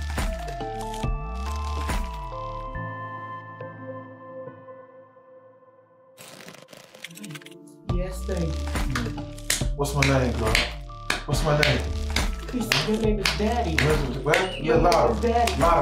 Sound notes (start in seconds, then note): 6.4 mysterious music continues; 9.9 loud slapping